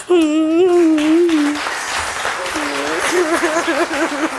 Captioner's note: audience applauds